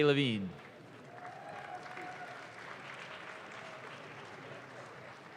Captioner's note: audience claps